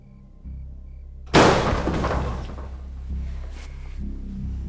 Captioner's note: loud clashing bang